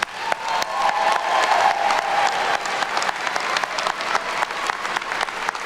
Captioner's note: attendees cheer and clap